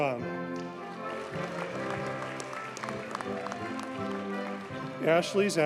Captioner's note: audience cheers and applauds